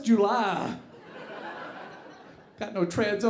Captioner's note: audience laughing